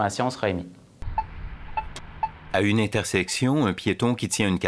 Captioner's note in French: bips